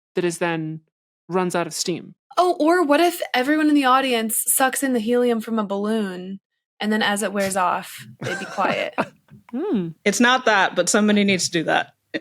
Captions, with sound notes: that is then... runs out of steam. Oh, or what if everyone in the audience sucks in the helium from a balloon, and then as it wears off, they'd be quiet? (laughs) Mm. It's not that, but somebody needs to do that.